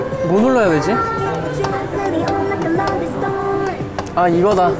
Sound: tapping

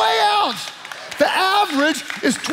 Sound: congregation applauding

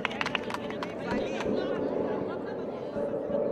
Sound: crowd applauding

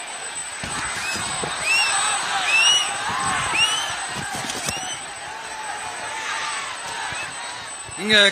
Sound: applause

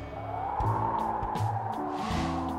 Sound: wind blowing

